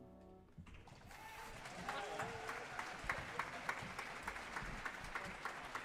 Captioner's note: audience applauding